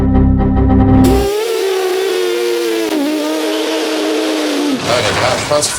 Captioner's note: makin car noises